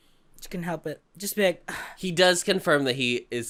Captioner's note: sigh